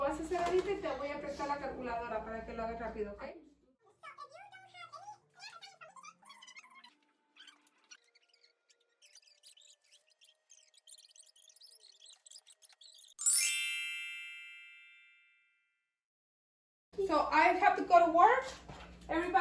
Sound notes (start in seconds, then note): 0.1 speaking in foreign language; 4.4 voices talking in fast forward; 13.2 chime